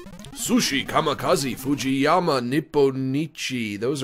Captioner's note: foreign accent; normal voice